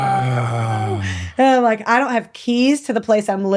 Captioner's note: man groans